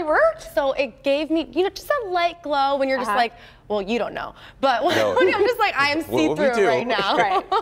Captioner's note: laughter